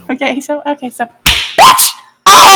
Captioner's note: s m a c k